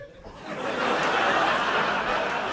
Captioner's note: laughter